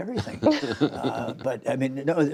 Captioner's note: laughter